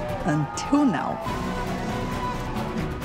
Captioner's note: cheering